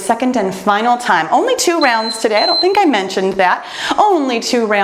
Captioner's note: timer beeps